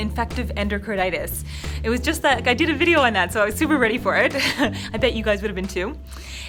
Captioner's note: laughs